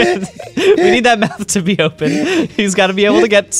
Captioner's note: laughs